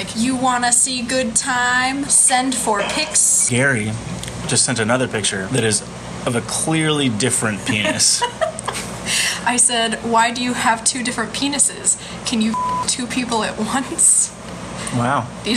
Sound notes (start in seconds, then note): 7.6 laughs in background